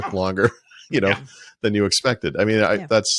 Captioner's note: laughing